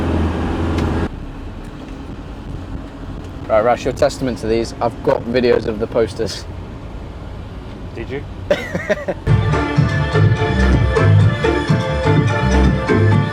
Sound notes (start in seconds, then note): 8.5 laughing; 9.2 hype electronic dance music